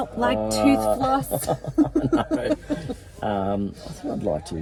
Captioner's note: laughing